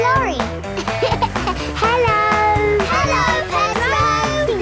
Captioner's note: laughing